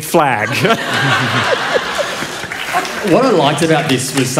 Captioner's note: laughter